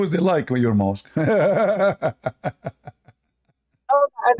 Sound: Ketawa

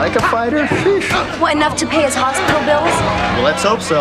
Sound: scoffs

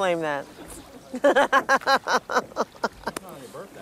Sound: manic laughter

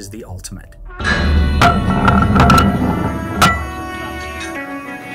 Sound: metal clanking; machine whirring; old western music

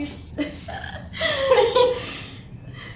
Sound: laughter

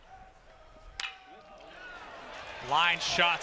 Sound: ball hitting bat

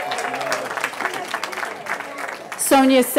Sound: cheering

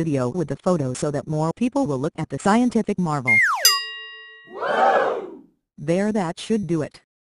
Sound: crowd Whoo

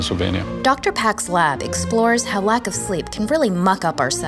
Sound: voiceover

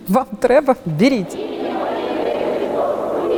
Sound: chanting

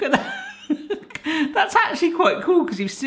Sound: chuckles

